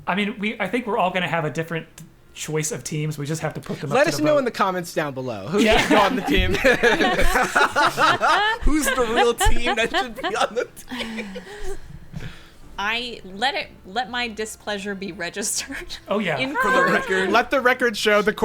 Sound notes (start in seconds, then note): 5.5 players laughing